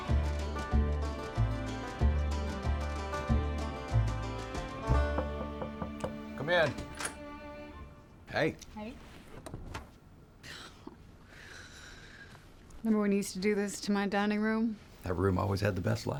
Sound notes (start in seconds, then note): 0.0 upbeat country music; 5.0 knocking on door; 5.2 door opens